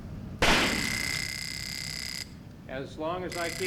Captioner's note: impact then taser noise; taser noise